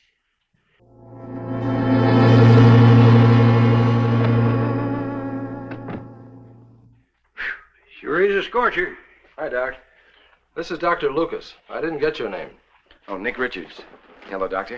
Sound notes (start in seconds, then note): 0.8 suspenseful music; 5.6 door thuds